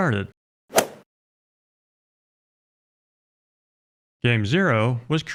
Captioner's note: golf swing sound effect